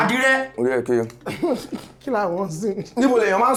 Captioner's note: laughs